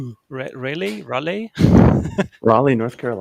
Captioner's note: laughs